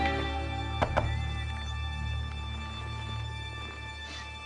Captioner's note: knocking on door